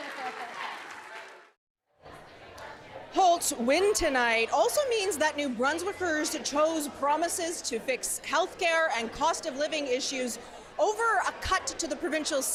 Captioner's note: cheers and applause